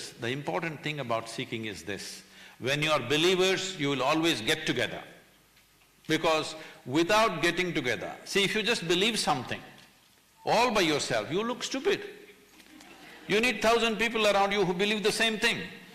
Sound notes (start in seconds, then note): 12.6 few laugh